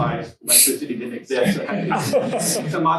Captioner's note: students laugh